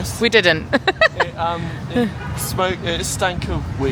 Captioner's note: laughs